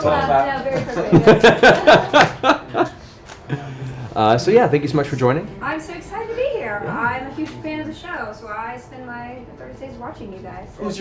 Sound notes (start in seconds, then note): 0.7 laughs